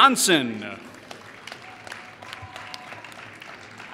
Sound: applause

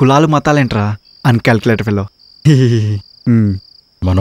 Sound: inner voice; inner voice

